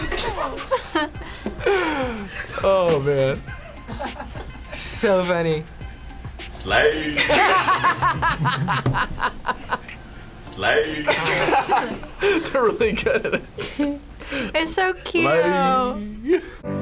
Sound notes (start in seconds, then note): 1.6 both laugh; 6.9 both laugh; 10.7 laughs